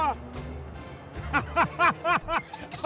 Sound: laughs

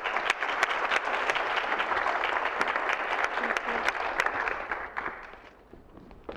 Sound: clapping

